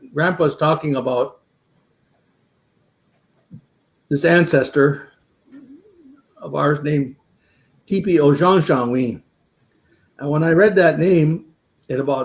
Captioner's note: speaking Dakota